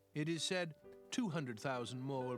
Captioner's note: none